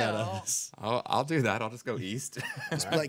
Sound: laughing

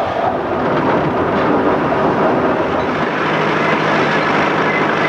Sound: train chugging

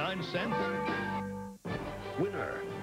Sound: bell tolls

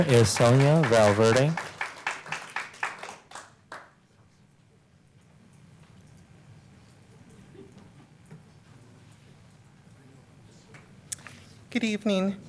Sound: applause

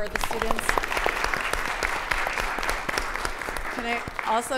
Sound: audience applauding

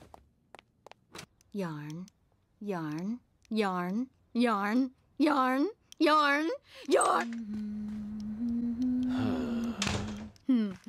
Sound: silent disappointment; quiet, peaceful humming; sigh

